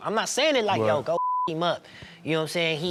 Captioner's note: beep